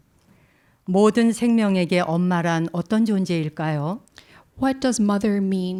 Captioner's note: speaking in Korean